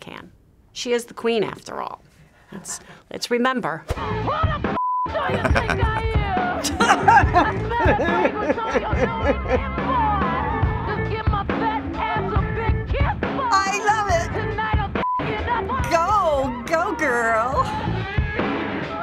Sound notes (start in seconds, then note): 5.2 chuckles; 5.2 laughing